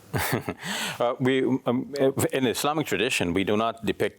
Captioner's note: chuckling